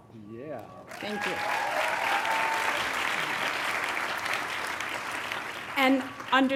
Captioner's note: graduates clapping; graduates cheering